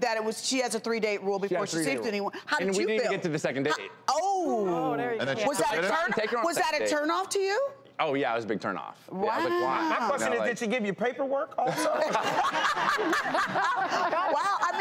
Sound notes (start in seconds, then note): 11.6 crowd laughs